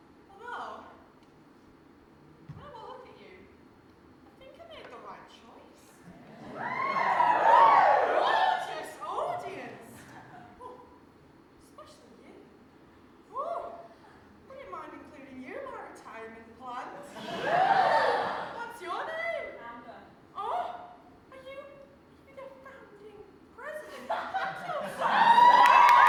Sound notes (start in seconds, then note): 6.3 audience whoop